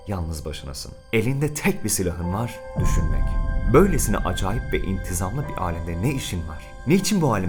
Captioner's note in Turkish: Gümleme sesi